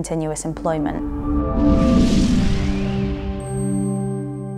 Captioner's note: logo whooshing